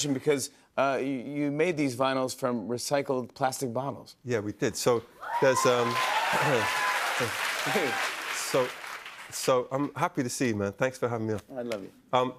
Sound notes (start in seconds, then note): 5.2 cheers and applause